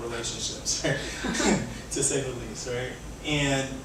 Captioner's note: laughs